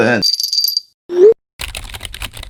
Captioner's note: bells chiming; keyboard typing